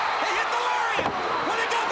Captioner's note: crowd cheering